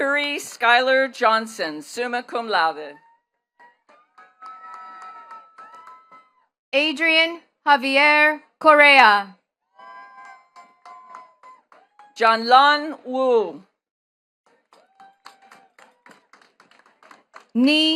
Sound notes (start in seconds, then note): 3.6 attendees cheering and clapping; 9.8 attendees cheering and clapping; 14.4 attendees clapping